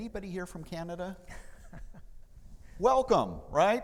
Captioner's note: laughing